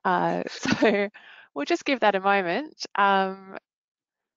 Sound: chuckling

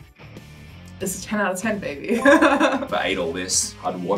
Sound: chuckles

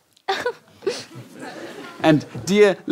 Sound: giggles

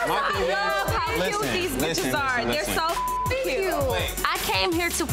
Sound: beep

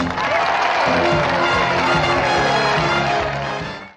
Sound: cheering and applause

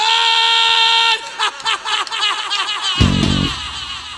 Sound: some psycho-laughter

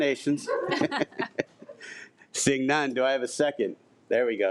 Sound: laughs

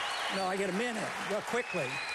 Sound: applause

